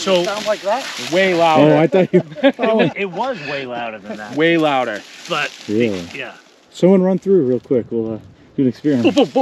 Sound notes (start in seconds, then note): 3.1 all laughing